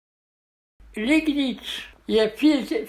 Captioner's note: in German